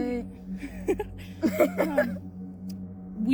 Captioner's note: laughing